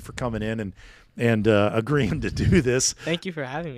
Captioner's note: laughing